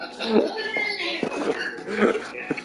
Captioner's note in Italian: Risate